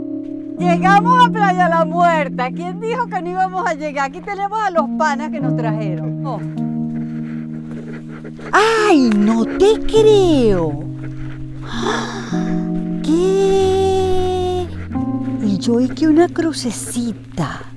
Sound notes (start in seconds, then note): 11.6 gasp